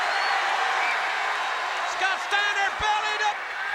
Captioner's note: crowd cheering